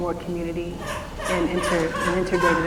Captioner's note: baby crying